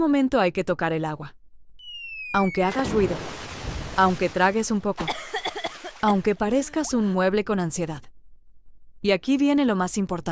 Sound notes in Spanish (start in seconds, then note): 5.0 risas